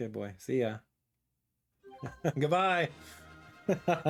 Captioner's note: laughs